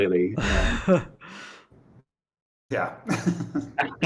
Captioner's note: laughs